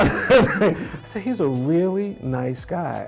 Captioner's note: all laughing